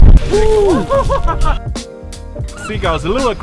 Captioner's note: laughing